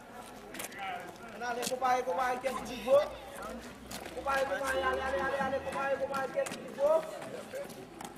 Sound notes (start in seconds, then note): 0.6 speaking Kreyol